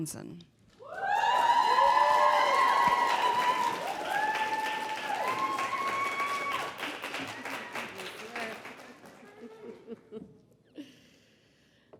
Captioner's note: applause